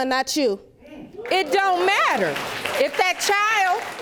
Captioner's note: audience applauding